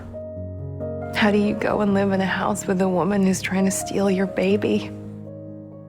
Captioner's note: voiceover